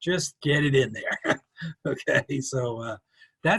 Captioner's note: chuckles